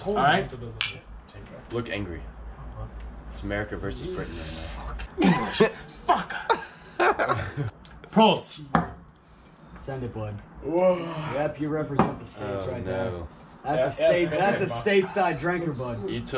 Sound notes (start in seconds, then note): 0.8 classes chinking; 6.0 laughing